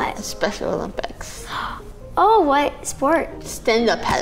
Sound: gasps

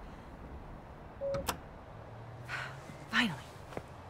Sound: lock chimes and thunks

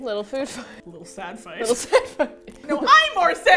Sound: laughing; laughs

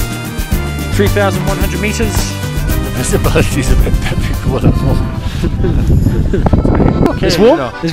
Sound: laughter

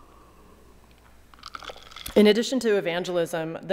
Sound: ice clacking

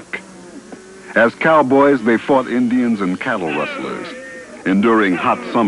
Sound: whooping

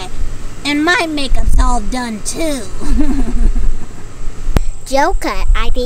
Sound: laughs

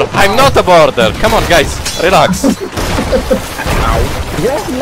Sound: laughing

